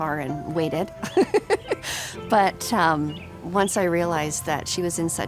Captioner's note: laughs